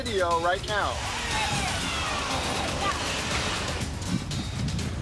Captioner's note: car reversing